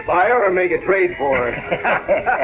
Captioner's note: laughter